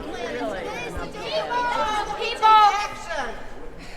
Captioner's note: yelling